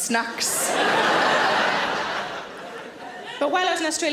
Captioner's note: audience laughter